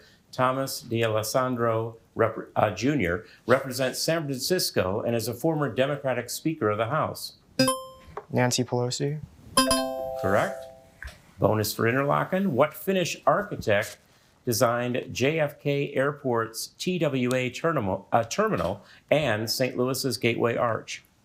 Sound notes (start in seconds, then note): 9.6 bell ringing; 9.6 buzzer ringing